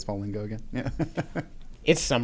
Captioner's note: laughs